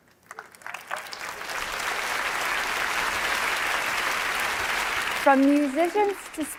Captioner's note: applause